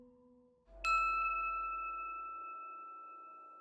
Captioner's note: bell dings